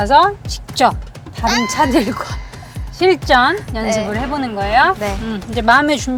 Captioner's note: gasp